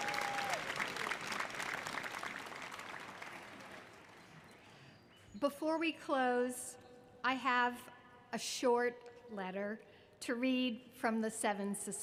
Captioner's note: applause